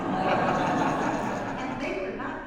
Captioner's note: audience laughs